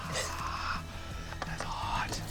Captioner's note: whisper scream